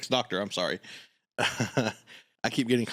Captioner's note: laughs